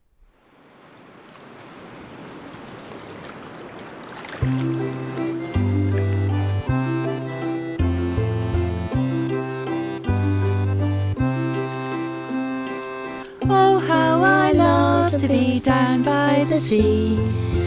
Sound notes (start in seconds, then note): 0.3 seaside noise and waves crashing; 4.6 harmonica music